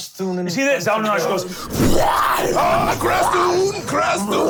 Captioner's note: angry growling